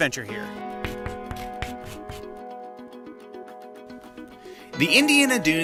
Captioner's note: chalk tapping on board